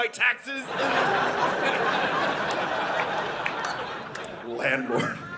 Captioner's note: audience laughing